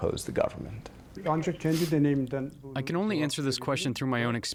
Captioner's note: through translator